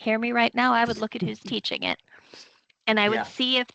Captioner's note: chuckling